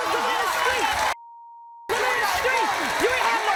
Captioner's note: beep